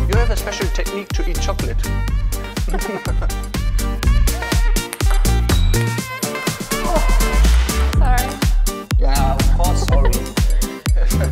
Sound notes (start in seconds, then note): 2.7 laughs loudly